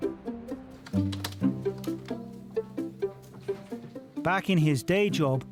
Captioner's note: gentle music; keyboard clicking